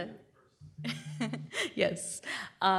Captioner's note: laughs